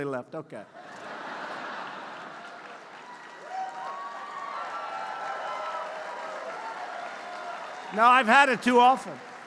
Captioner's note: laughter and applause